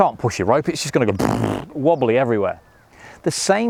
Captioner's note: sputters